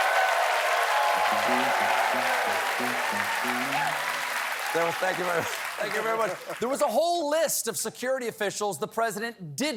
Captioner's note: cheers and applause